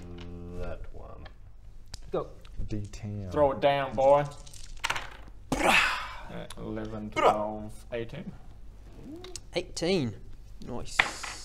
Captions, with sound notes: mmm...that one Go! d10 Throw it down boi! *BWARRRGH!* 11...12...18 18 noice